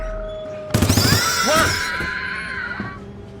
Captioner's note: gunfire; Price yelling